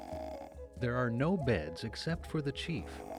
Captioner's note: man snores